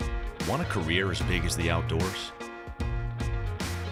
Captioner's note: voiceover